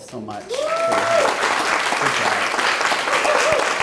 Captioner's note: clapping